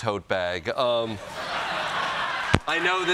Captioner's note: laughter